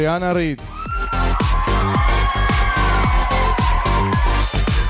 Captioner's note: audience cheering